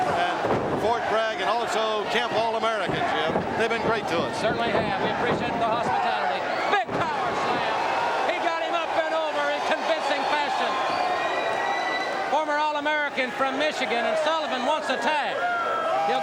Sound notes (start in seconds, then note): 7.7 audience cheers